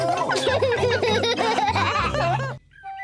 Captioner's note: all laughing; laughs